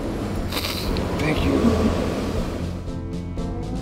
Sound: sniffling

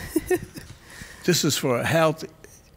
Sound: laughing

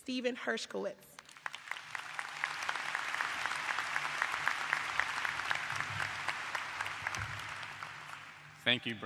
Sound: applause

